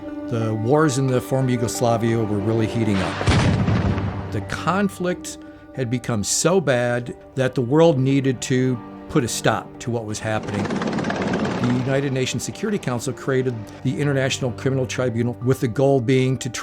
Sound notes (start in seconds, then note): 3.1 artillery fires; 10.2 military vehicles rumble